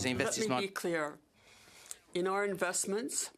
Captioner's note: speaking French